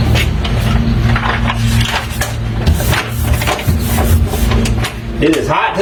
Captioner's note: rubbing material